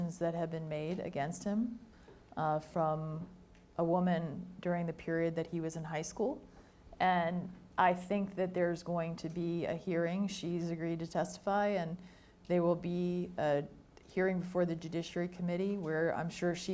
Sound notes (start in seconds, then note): none